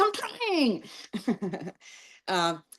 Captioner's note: laughing